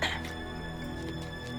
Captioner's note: grunts